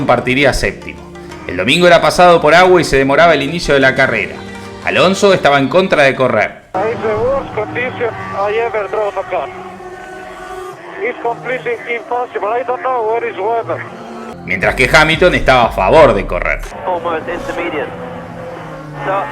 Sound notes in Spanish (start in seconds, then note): 8.1 radio